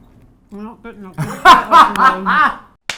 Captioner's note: laughs